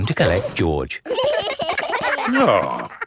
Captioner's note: giggling